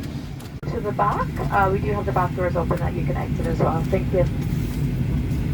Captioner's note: announcement